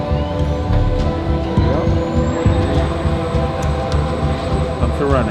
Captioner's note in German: Geräusch eines hochfahrenden Generators